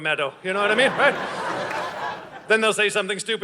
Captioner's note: audience laughing